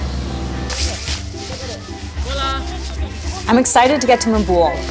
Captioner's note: overlapping chatter